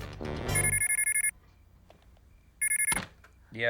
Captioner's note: telephone rings; ring